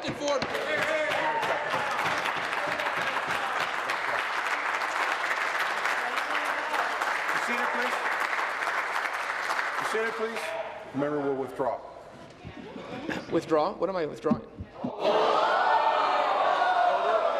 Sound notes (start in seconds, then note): 6.7 applause